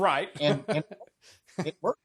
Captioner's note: laughs